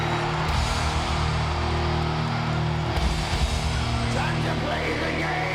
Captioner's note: audience cheering